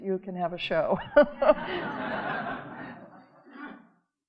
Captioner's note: audience laughing